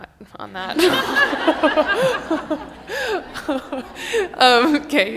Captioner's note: laughter